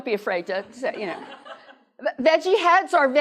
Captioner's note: laughter